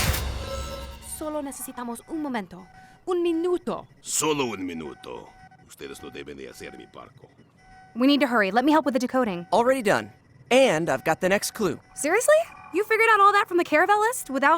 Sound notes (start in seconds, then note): 0.3 ava speaking spanish; 4.2 captain speaking spanish